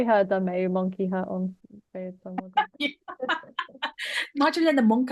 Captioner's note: laughs